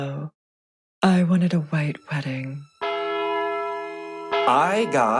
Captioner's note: bell rings